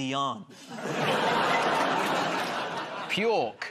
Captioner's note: laughter